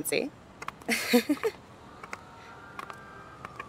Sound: chuckles

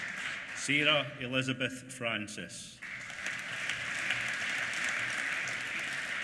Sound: applause

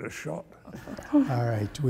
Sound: laughter

